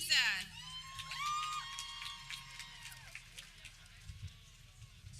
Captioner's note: people cheering